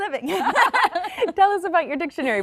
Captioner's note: laughing